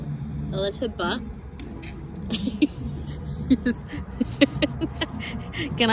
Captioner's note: chuckles for longer than necessary